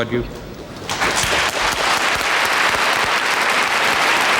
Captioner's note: applause